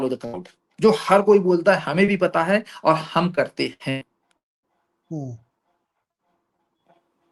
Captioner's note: none